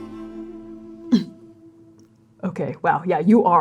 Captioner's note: pathetic grunting